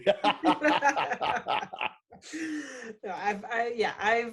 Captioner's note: laughing